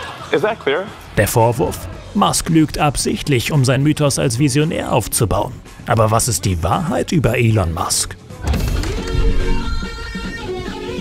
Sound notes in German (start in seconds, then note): 8.4 Verzerrte Klänge